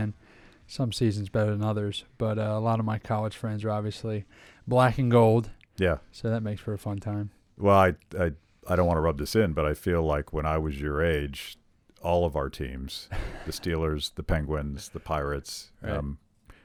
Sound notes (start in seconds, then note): 13.1 laughs